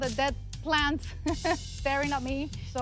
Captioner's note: laughs